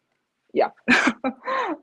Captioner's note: chuckles